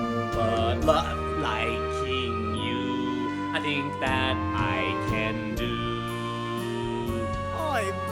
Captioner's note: chokes